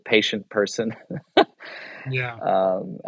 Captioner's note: chuckles